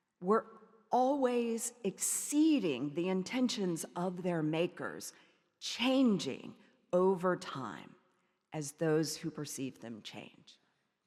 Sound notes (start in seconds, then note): none